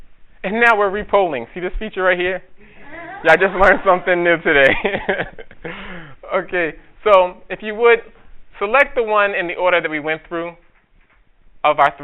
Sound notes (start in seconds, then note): 4.3 audience laughter